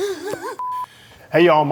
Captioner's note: beep